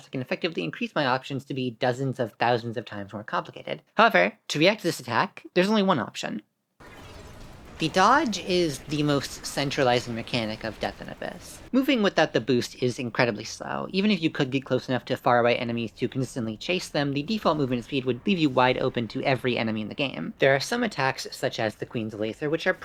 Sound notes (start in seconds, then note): 6.8 dodge sound effect